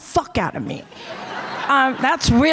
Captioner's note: audience laughter